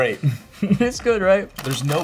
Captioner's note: laughing